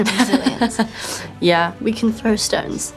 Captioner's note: chuckles